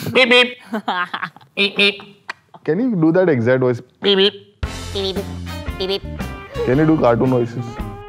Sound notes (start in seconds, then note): 0.0 laughs; 0.2 Mimicking Road Runner; 1.8 Mimicking Road Runner; 4.1 Mimicking Road Runner